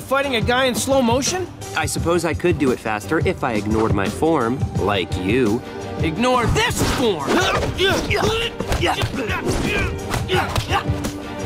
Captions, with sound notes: Ha! What are you fighting, a guy in slow motion? I suppose I could do it faster if I ignored my form like you. Ignore this form. [grunting]